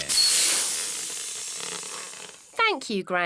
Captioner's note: air hissing